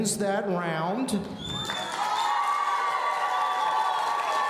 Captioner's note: audience cheering